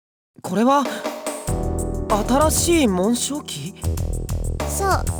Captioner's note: none